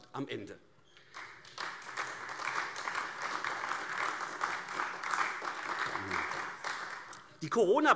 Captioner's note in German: Beifall AfD